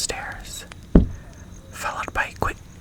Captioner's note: one knock